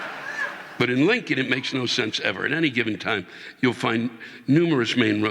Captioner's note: audience laughing